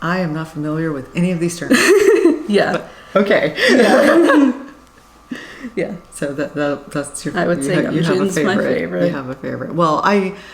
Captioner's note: laughs